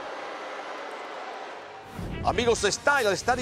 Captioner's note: applause